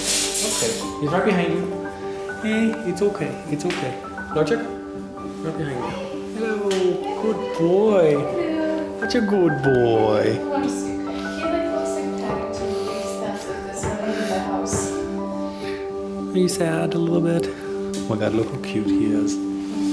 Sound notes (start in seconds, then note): none